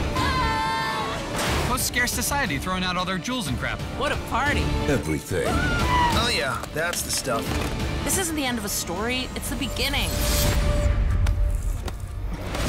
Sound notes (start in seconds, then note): 0.1 screaming; 5.4 screaming